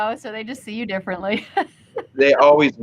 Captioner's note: host chuckles